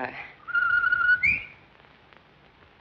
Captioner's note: whistling